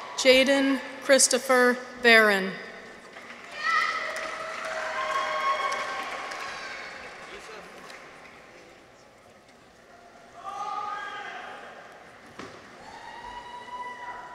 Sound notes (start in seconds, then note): 3.0 audience applauds; 3.2 people cheer; 10.4 audience members cheer